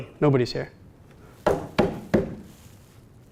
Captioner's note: knocks on wood